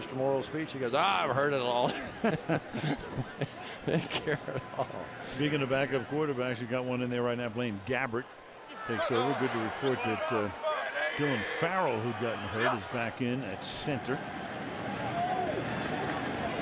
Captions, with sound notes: listen to Mr. Morrall's speech? He goes, I've heard it all [laughter] --and carried on. Speaking of backup quarterbacks, he got one in there right now. Blaine Gabbert takes over good. To report that Dillon Farrell, who'd gotten hurt, is back in at center.